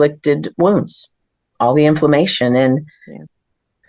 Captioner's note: sighs